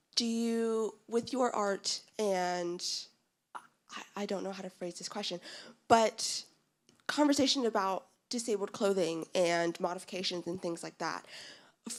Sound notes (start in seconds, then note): none